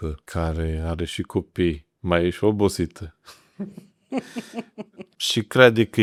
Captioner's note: laughter